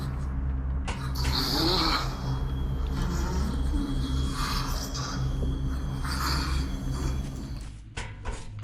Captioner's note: ghastly wheezing